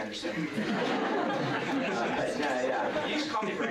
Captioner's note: laughter